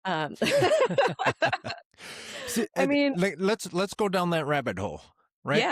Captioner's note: both Laughing